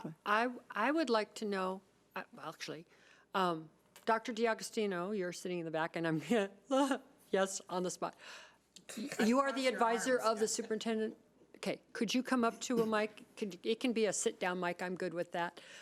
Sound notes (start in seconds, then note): 9.1 chuckling